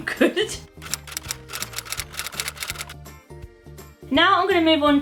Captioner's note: typewriter sound effect